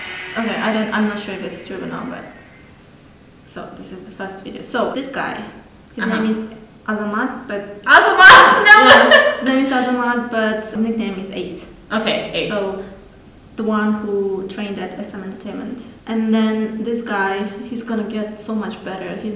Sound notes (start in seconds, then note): 8.2 laughs